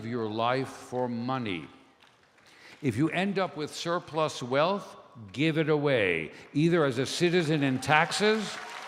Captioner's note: applause, cheers